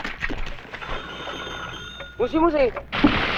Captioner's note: dialling sounds; non-english speech